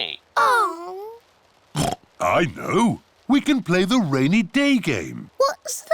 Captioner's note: oinks